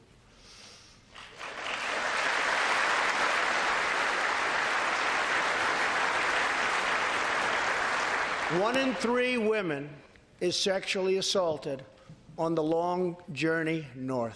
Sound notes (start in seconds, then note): 5.7 applause